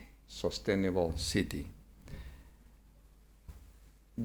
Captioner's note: none